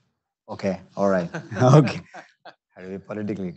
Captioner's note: laughing